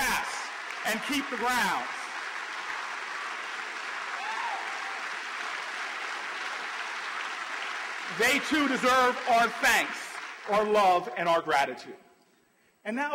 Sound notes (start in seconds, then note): 2.2 applause